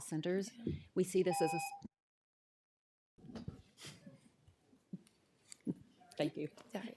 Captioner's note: timer tone